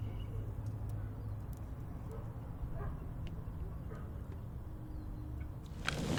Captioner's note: dog barking faintly